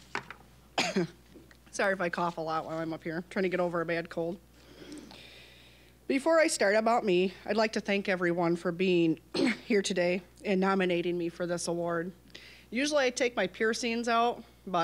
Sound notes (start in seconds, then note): 0.7 coughing